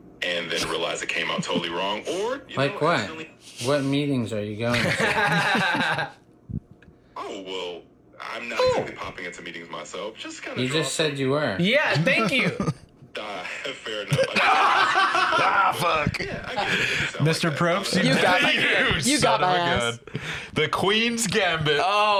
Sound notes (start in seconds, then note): 13.9 laughs